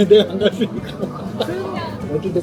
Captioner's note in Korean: 웃음